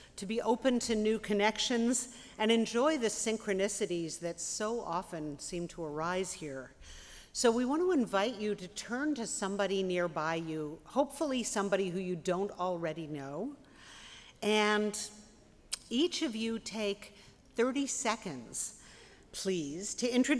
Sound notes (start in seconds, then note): none